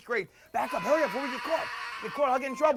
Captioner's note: screams